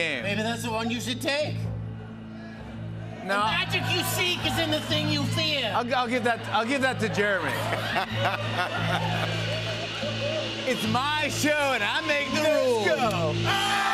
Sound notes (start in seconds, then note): 7.4 laughs; 13.7 cheers and applause, bell dinging